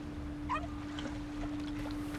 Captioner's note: faint dog bark